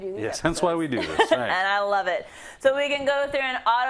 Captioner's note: laugh